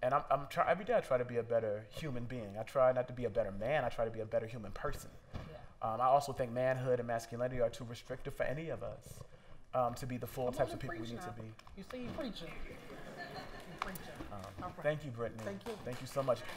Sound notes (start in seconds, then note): 12.6 laughter